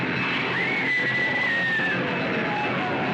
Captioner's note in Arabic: صراخ